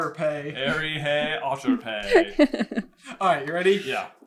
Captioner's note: laughter